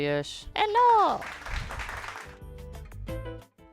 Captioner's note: everyone watching claps